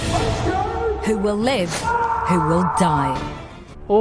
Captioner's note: screaming